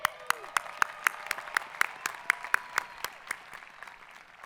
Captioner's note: audience applaud